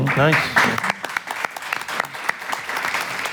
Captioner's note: applause